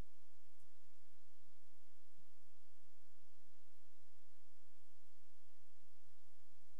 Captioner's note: none